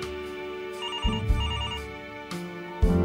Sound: phone ringing; phone beeps

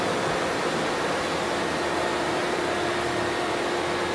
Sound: drone motors running

